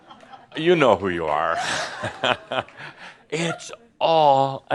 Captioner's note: Adamus chuckles